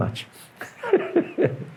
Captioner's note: laughs